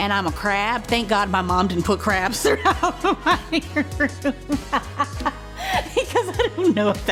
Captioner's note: laughs